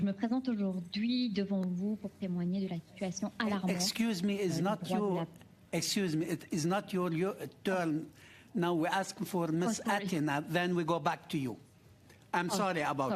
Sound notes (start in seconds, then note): 4.1 speaking French